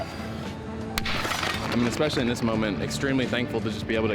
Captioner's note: blocks clanking